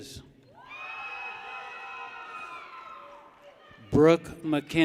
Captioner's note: people cheer